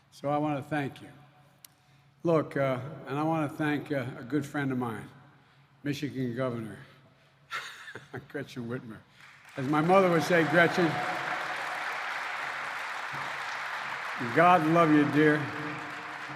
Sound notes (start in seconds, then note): 8.5 applause